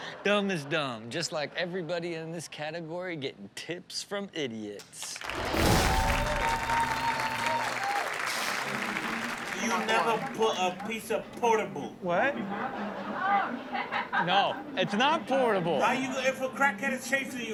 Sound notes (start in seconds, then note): 5.2 cheering